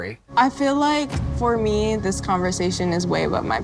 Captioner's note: none